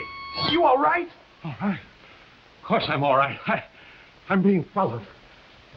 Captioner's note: Chumley gasping